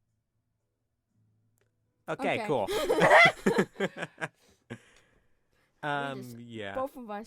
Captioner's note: laughter